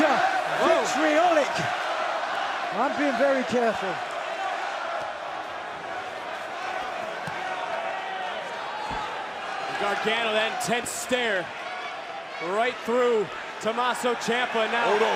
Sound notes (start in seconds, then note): 8.7 crowd chatter